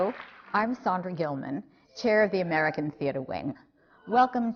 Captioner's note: applause